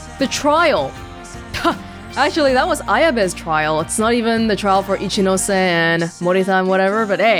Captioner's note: chuckles